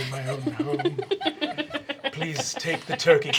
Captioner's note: everyone laughing